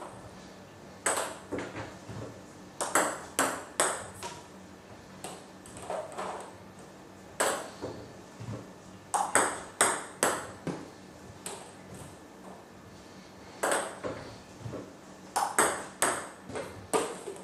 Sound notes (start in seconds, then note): 0.1 balls ping pong hitting continues; 9.1 balls ping pong hitting continues